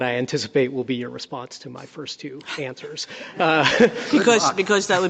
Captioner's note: laughter